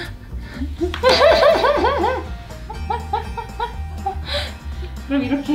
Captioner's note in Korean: 웃음